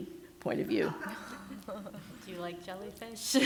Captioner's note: laughter